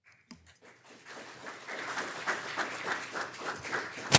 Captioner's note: crowd clapping